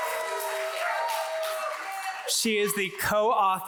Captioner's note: audience applauds